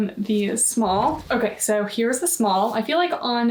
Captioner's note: graphic whooshing